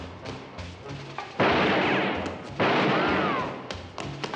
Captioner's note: gun firing